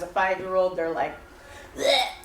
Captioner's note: vomit sound